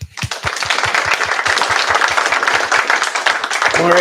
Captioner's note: applause